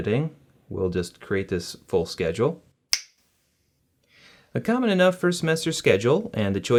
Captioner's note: snap